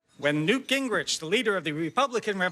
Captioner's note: soundbite of archived recording